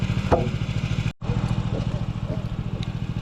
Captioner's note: motor whirring